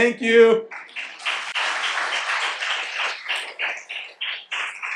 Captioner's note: audience applauding